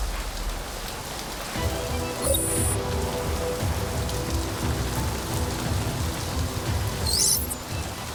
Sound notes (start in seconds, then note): 2.2 watch chirps